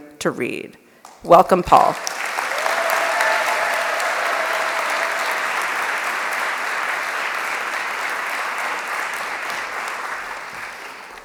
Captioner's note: applause